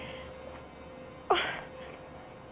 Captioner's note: sobs